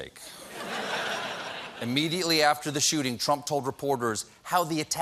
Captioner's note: laughter